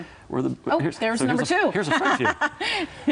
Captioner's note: laughs